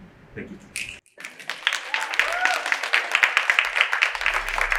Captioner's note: audience applauds